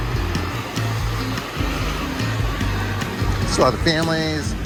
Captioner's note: kids chattering